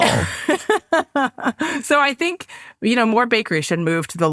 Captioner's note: laughs